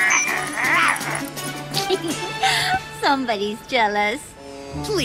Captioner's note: barking; laughs